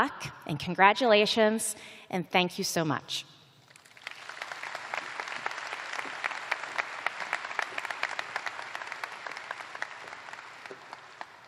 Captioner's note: applause